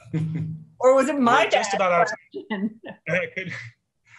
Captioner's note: laughs